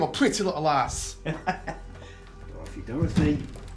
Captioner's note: Edward laughs